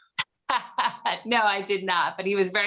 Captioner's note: laughs